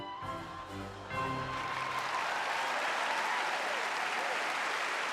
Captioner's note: cheers and applause